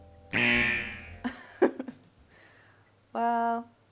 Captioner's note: horn blowing. chuckle